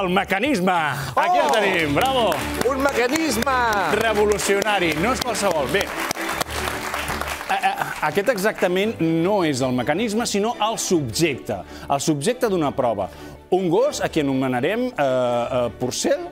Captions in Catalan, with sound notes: Que entri el mecanisme! (aplaudiments)